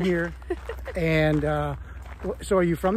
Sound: laughs

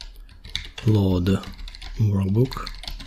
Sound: typing

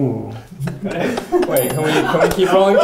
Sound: laughing; bell rings

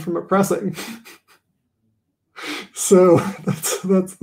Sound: laughing

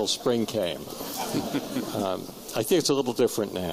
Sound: laughter

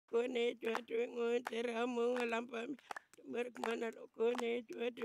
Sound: person chanting in language

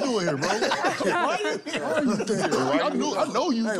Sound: laughter

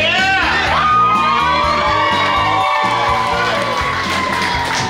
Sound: group cheers loudly

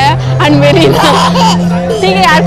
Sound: baby laugh

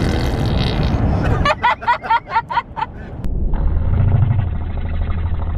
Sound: laughing

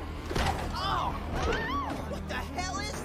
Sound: people exclaiming

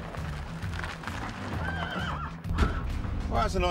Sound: horse whinnies

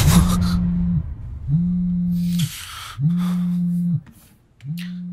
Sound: phone Ringing

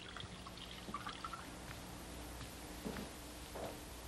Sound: pouring drink

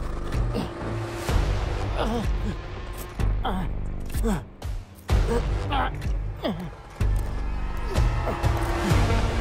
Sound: pilot struggles in pain

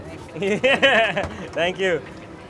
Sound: laughs

